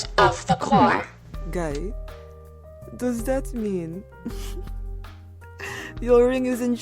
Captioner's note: quiet snicker